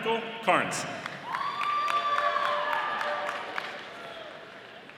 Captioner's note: audience applauding